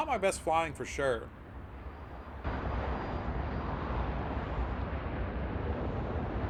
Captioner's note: wind howling